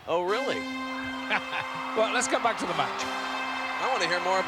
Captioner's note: laugh